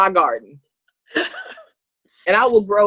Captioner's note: laughing